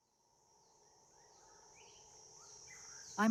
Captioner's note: birds chirping